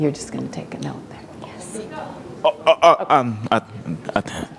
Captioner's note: chuckle